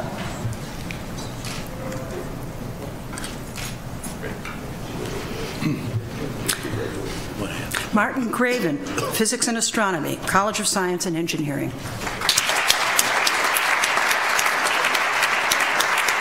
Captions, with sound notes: Martin Greven, Physics and Astronomy, College of Science and Engineering. (audience applauds)